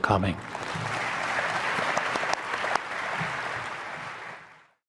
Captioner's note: audience applauds